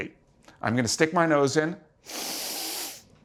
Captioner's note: sniffs